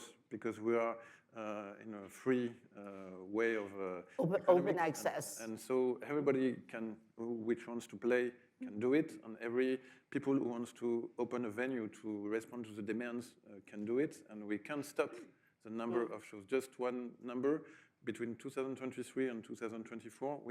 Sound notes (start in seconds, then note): none